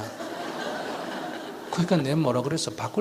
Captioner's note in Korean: 청중 웃음